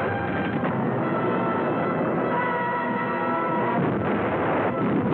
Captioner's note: war sounds